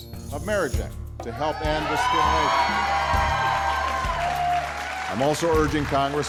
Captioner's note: cheers